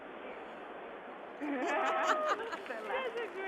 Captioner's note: laughter